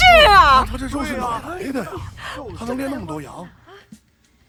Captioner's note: 众人议论